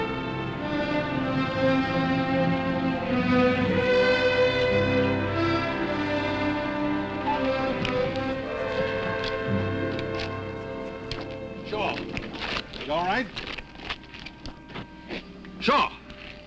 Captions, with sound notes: (tires screech) - Shaw, you all right? (soft dramatic music) Shaw?